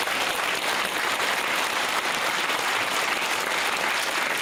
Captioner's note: applause